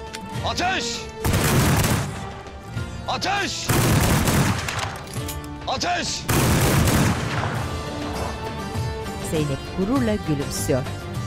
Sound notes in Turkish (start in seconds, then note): 1.2 Silah sesleri; 3.6 Silah sesleri; 6.2 Silah sesleri